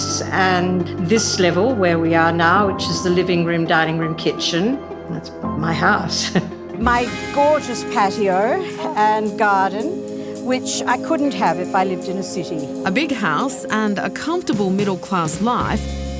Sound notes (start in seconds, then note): 6.2 chuckles